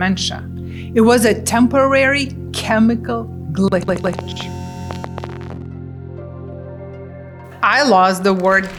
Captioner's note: static noise